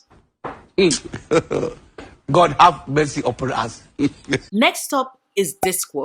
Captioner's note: hmmmm. *laugh* god have mercy upon us. *laughter